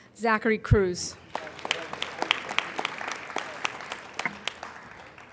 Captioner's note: applauding